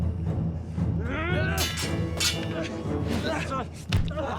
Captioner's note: fighters grunting; swords clanging; back slams; foot thumps